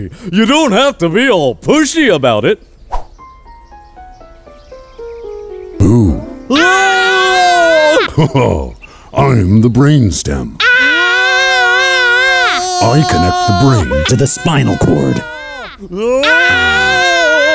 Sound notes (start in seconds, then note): 6.5 screaming; 7.5 laughing; 10.6 screaming